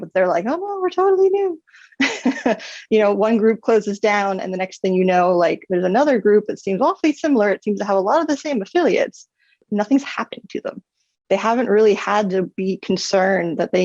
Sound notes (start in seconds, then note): 1.9 laughs